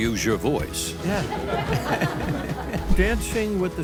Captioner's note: host and audience laugh